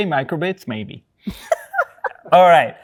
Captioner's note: laughing